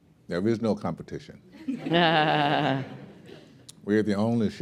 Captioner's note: laughter